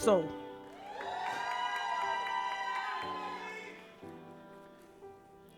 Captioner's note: audience applauds